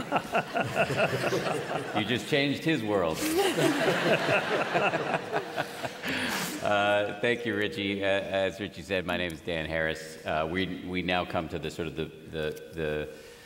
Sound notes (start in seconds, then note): 3.1 laughter